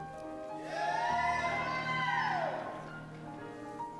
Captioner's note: cheers